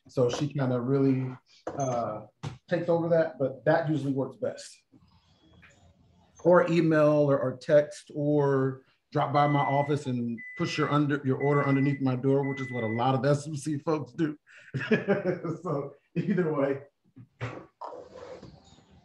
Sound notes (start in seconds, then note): 14.7 laughter